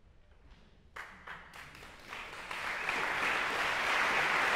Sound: applause

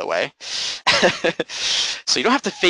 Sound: laughing

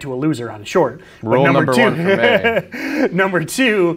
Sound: laughing

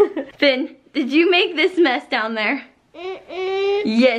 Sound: giggling

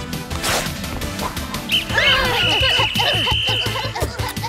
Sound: whistling, grunting; grunting

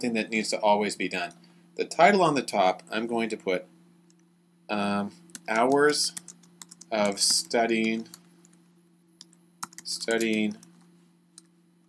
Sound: typing

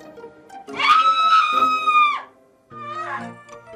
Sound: screams

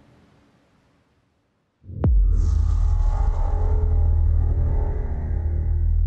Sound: transition sound

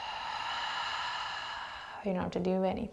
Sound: heavy breathing

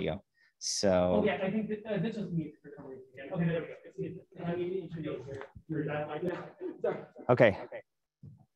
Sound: background talking

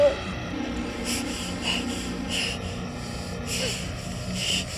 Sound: heavy breathing

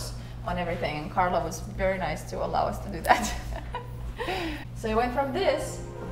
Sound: laughing

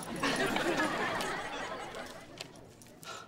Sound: laughing

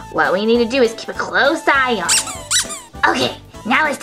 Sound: squeaks

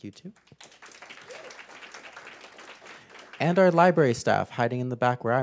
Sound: applause

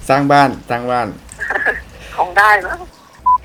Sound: laughing

